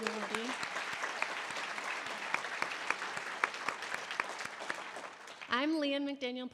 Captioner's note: audience applause; applauding